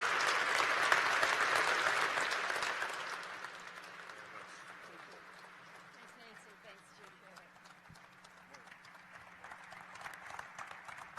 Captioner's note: applause